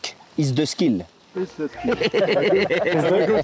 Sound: laughs

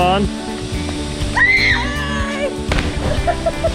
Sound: screams

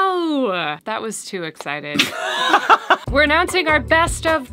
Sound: laughs

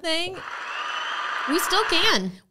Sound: crowd applauding

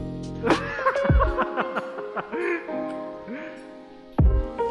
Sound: laughing

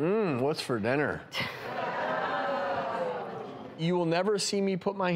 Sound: audience groans

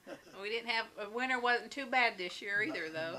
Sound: laughs

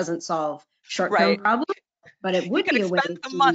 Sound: murmurs

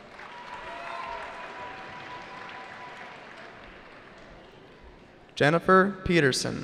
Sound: cheering

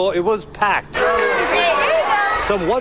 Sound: crowd chattering

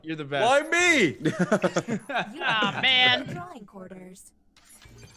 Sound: laugh

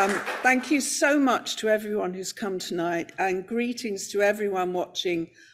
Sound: applause

